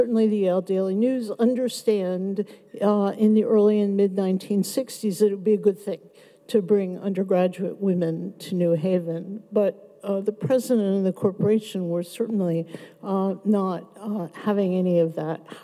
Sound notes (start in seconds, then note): none